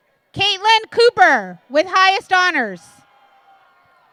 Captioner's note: applause